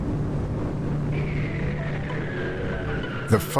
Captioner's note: engine rumble